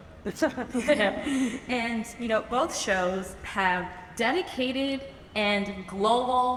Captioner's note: laughs